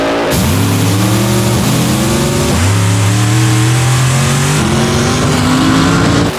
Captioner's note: engine buzzing and tearing; cars growling